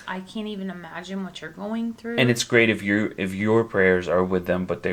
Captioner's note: none